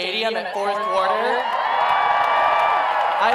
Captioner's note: cheering